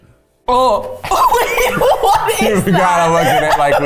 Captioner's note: laughing